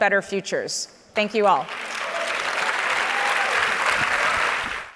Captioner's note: audience applauds